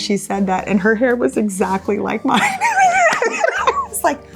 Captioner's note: laughs